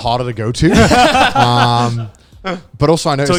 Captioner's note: group laughing